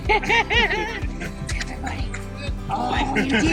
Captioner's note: laughing